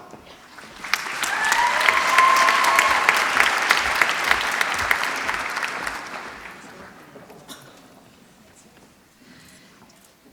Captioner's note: applause